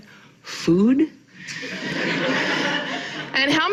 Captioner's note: audience laughing